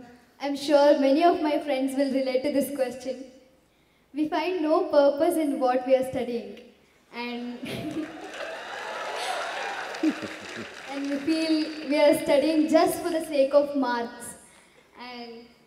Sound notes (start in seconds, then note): 7.6 laughs; 7.6 cheers